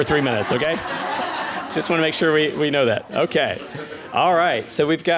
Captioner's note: laughter